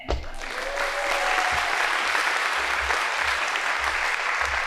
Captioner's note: audience applauding